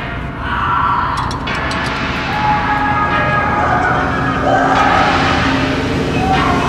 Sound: dark instrumental music; screaming

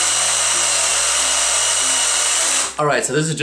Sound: saw noises

